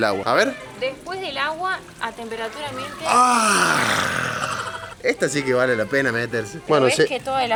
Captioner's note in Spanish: gemido